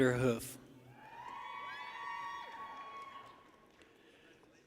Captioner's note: people cheer